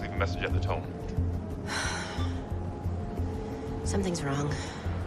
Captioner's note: sighs